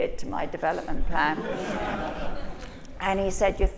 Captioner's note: laughter